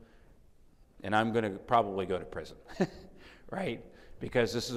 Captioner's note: chuckles